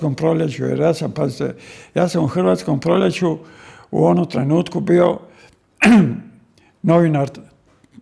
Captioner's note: coughs